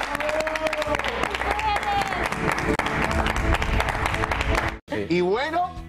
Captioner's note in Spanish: aplausos